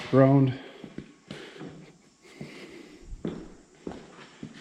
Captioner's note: exhaling